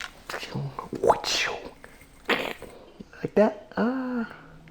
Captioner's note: mimics electronic noises